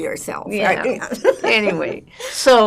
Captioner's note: laughing